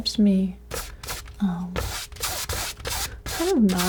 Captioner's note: scissors snipping